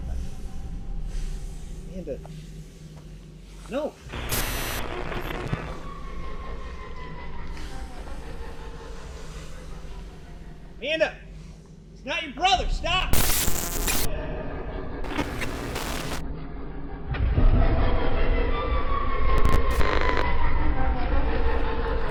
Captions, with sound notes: - It's my brother. - Amanda, no! (rumbling eerie sounds echo) (static hisses) Amanda, it's not your brother! Stop! (rumbling eerie sounds echo) (static hisses)